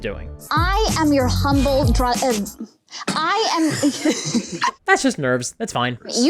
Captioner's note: stuttering